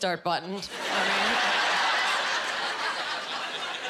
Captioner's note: laughing